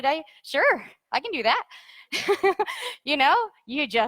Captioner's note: laughs